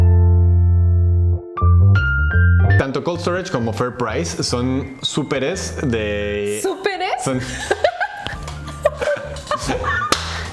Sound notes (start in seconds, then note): 6.7 laughs in Spanish jajaja; 9.4 more laughs